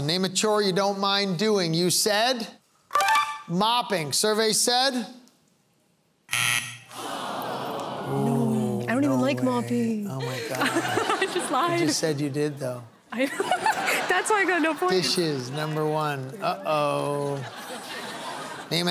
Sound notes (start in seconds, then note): 7.3 groaning; 13.1 laughter; 17.1 laughter